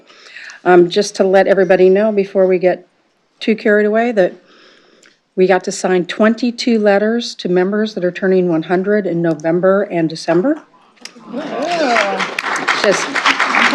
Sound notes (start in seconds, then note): 11.3 applause